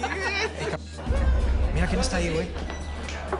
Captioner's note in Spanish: Risas